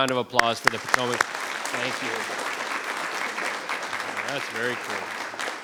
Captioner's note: members clapping